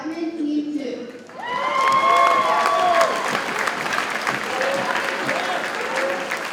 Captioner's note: audience cheers and applauds